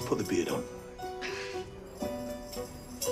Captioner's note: sighs